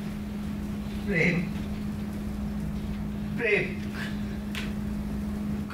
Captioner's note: speaks in foreign language